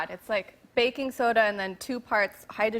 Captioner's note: none